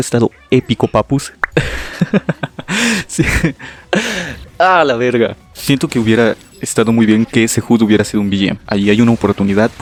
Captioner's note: laughs at his own joke